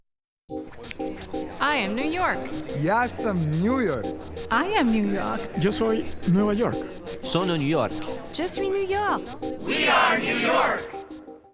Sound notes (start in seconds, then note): 6.5 Spanish; 9.1 French